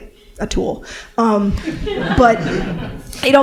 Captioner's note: laughter